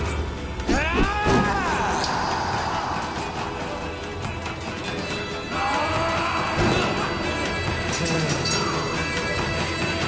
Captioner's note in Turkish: Bağırma ve çarpışma sesleri